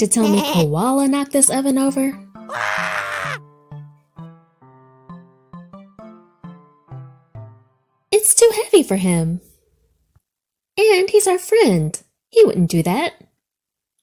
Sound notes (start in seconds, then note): 2.4 comical screams; 3.2 soft music